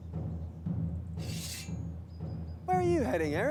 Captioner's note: sword scratches